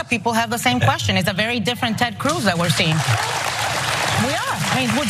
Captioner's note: applause